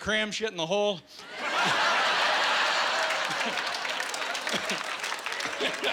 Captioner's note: laughing